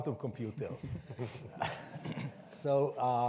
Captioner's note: everyone chuckles